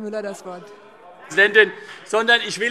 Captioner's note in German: Vereinzelter Beifall CDU und BÜNDNIS 90/DIE GRÜNEN